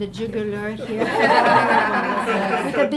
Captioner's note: audience laughing